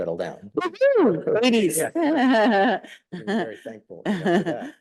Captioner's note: chuckles